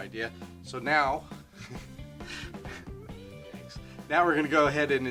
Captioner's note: chuckling